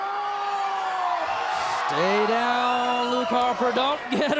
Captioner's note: crowd cheering